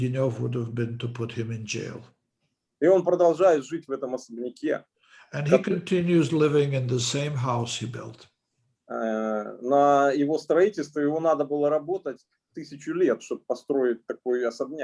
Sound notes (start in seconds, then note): 3.1 speaking Russian language; 9.3 speaking Russian language